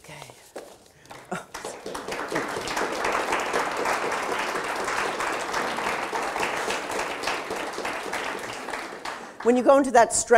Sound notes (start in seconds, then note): 1.0 audience applauded